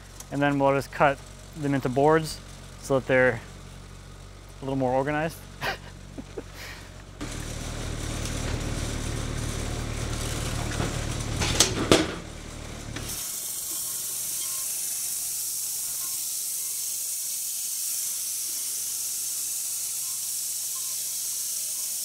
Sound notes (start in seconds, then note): 5.6 laughing; 7.2 machine whirring